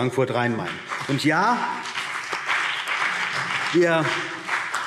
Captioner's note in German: Beifall CDU und BÜNDNIS 90/DIE GRÜNEN